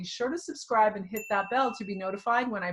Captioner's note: bell dings